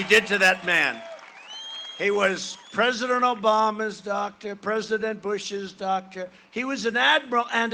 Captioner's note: cheering and applause